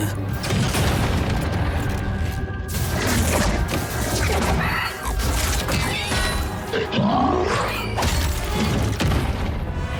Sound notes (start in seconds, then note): 6.7 squealing and grunting